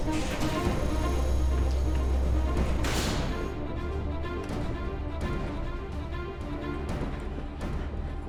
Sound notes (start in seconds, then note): 3.2 door thuds; 4.2 tense dramatic music